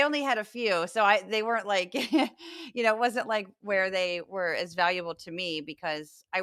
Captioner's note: laugh